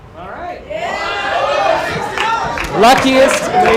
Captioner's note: cheering